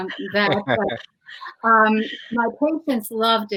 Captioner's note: laughing